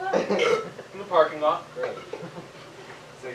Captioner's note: Belch